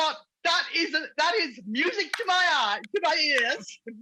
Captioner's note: clapping